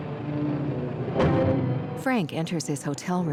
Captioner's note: door slamming